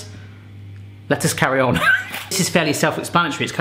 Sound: laughing

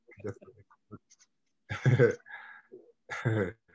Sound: chuckles

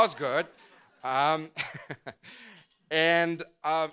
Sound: laughs

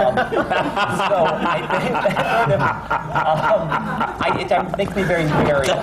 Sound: laughter

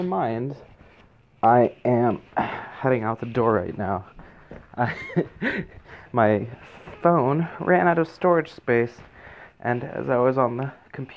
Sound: laughs

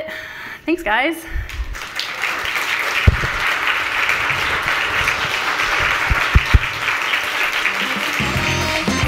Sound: audience applauding

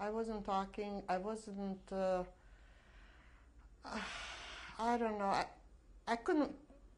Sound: sighs

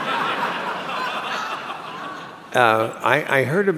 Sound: laughter

